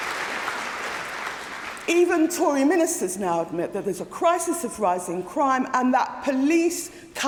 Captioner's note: applause